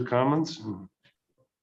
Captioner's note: silence